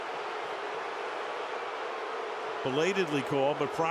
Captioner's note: crowd booing